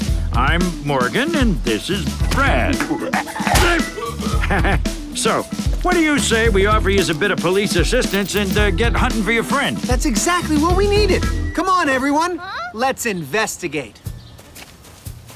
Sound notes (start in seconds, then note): 2.8 chuckles; 2.9 hoots